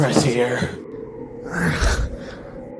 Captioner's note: exhausted sigh